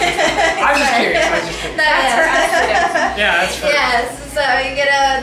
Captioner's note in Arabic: سمسار عقارات يضحك